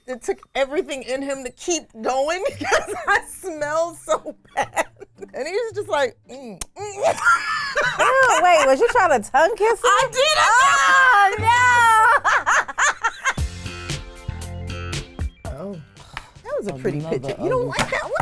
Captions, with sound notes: it took everything in him to keep going. Cause I smelled so bad and he was just like (kissing noises) - Wait, was you trying to tongue kiss him? - I did. - Oh No. - Oh. - That was a pretty picture. You don't like that?